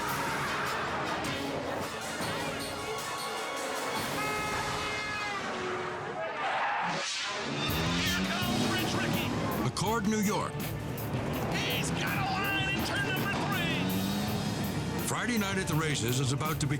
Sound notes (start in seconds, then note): 0.0 dramatic music; 3.7 horn roaring; 6.8 scene swooshing